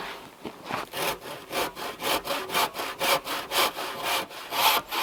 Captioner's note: saw scraping